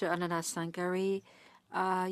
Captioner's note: speaking French